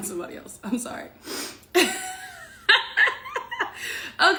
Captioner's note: laughs